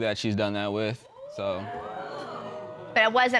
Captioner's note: audience exclaiming